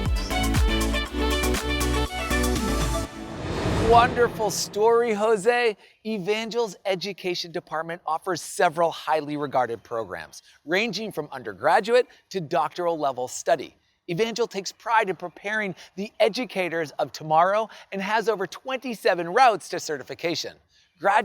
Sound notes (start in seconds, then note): 0.0 uplifting music; 2.3 air whooshing